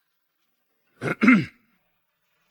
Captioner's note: cough cough